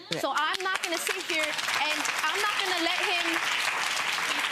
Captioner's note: audience applause